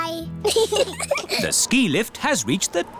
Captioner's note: both giggle